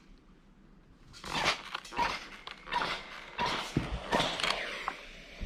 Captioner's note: steam spray squeaking